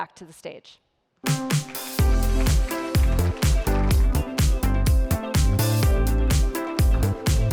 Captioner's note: upbeat music; audience applauds